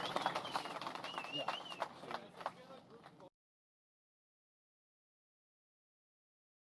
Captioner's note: applause